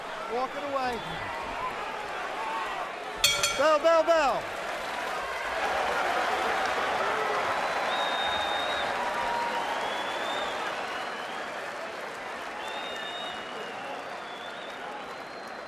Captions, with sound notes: - Walk it away. [bell dinging] Bell, bell, bell. [cheers and applause]